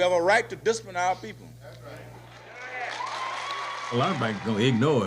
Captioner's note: cheers and applause